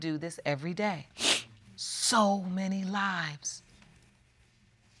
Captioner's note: sniffles